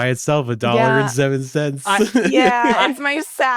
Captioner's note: laughs